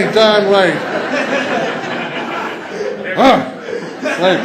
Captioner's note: laughter